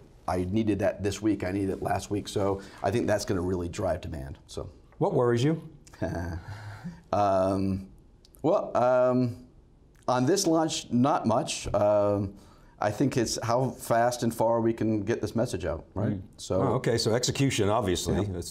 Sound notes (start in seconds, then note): 6.0 laughs